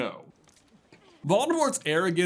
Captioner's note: splurts